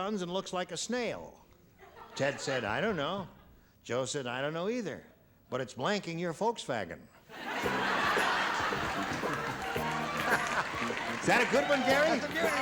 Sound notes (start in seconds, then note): 7.3 laughter